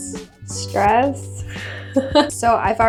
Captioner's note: laughs